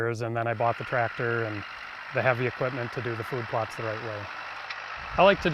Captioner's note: tractor rumbles